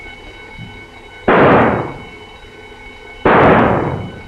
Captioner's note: gun firing